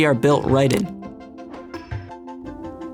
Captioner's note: click